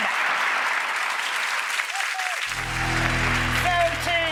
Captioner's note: audience claps